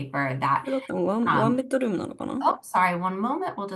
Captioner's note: non-english